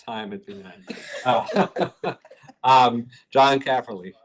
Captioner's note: laughter